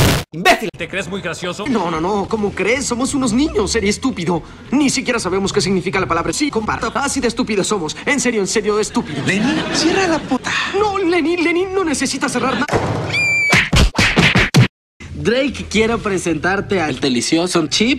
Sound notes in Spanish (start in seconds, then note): 13.1 Grito de niñita